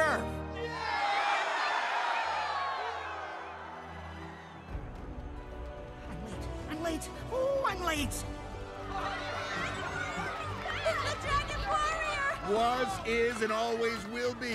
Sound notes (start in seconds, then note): 0.5 all cheering; 8.9 excited clamoring